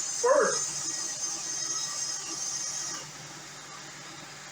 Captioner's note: transmission whines